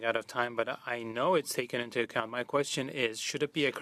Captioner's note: speaking French